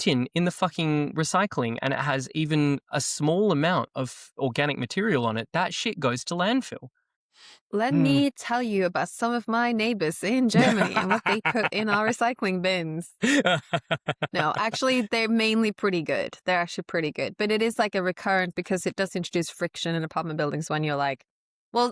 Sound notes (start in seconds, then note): 10.5 laughs